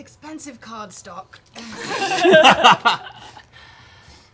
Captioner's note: laughter